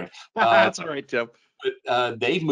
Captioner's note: laughs